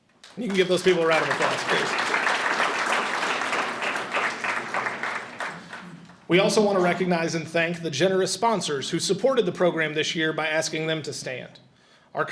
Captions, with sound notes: And you can give those people a round of applause, please. (audience applauds) We also wanna recognize and thank the generous sponsors who supported the program this year by asking them to stand.